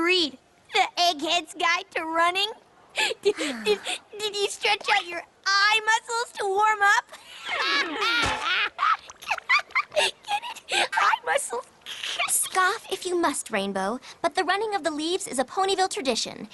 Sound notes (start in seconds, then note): 2.9 sighs; 7.1 laughing